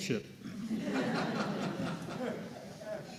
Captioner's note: laughter